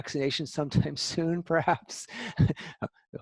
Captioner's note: laughter